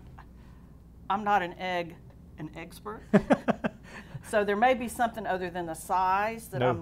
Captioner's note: laughing